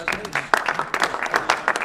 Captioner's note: applause